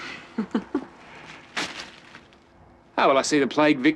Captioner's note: Irene laughs